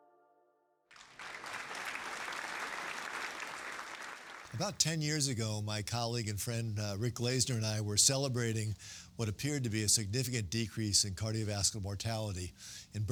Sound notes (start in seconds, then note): 0.9 audience applauding